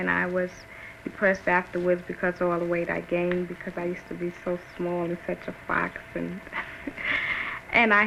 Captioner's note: laughs